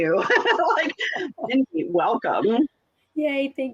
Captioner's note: laughs